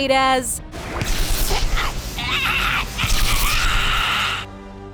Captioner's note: screaming